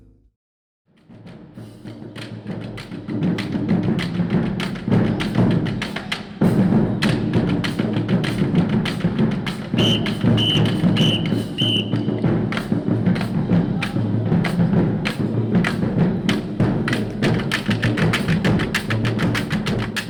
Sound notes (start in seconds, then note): 0.8 drumming; 9.7 whistle; 12.0 drumming